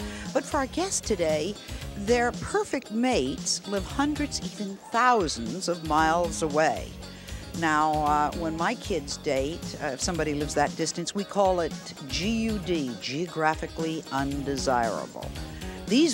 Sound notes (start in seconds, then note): none